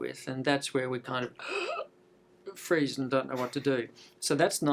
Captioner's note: gasp